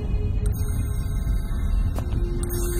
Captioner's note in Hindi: घड़ी चल रही है